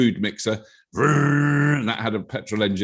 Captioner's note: robert making revving noises